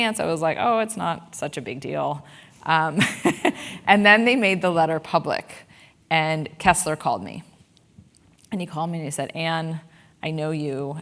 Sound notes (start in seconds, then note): 3.0 laugh